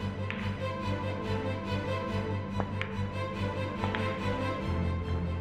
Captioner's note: pool balls clacking